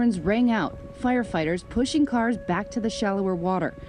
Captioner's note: sirens